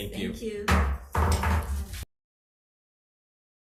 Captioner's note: gavel thuds